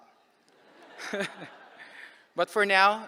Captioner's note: laughter